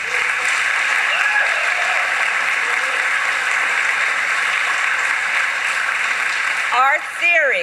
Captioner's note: applause